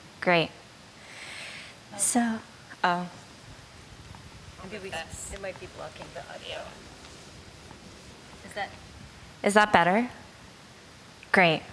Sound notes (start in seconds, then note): 1.9 chatter